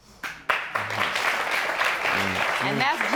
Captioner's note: audience applauding